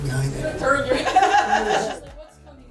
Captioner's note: laugh